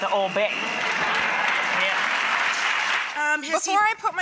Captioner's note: audience laughter and applause